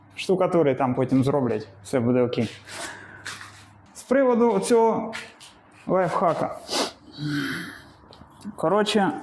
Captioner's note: sniffs